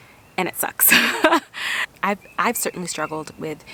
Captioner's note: laughs